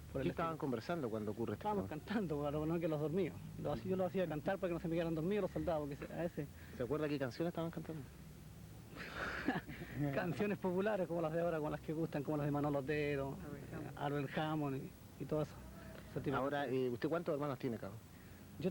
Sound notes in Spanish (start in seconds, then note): 9.0 Se ríe